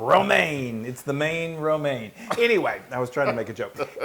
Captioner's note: laugh